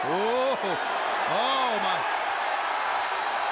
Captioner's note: applause